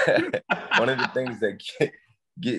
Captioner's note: laughing